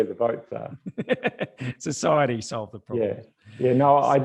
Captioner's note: laughs